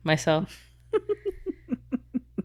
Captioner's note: laughing